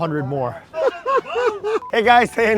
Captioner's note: laughs